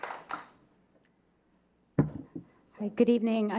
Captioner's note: clapping